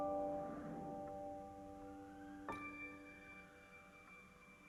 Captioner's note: none